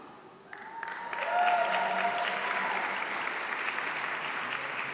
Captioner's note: audience cheering